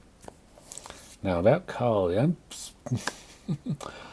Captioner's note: chuckles